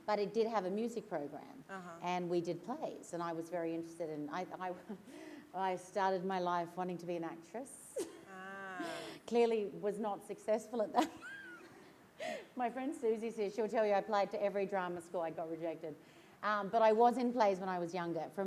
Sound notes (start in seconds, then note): 12.0 laughs